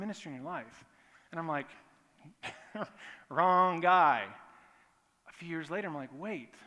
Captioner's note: laughing